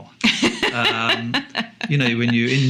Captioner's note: laughs